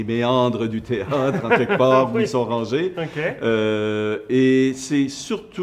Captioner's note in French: rires